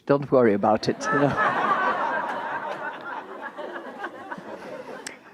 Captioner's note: audience laughing